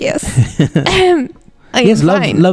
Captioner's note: laughs; clears throat